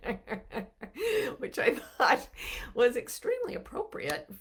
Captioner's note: laughing